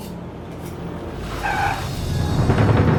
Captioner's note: tires screech